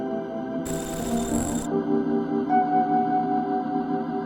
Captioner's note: static sizzling